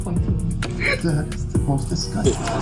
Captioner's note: laughing; laughing